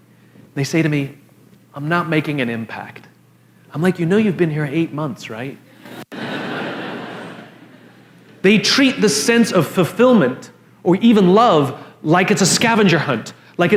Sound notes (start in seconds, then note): 5.8 La audiencia se ríe